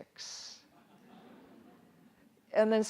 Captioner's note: audience laughs